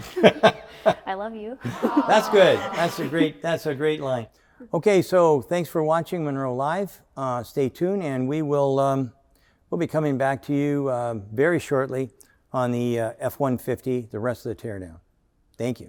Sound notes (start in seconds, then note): 0.0 both laughing; 1.6 audience sighing